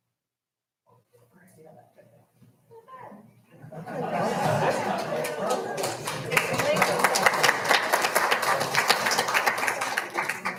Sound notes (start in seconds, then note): 4.2 audience applauding